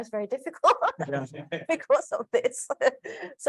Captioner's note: laughs